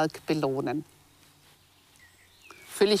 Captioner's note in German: Vogelzwitschern